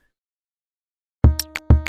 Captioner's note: silence; electronic music